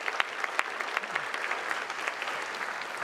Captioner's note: applause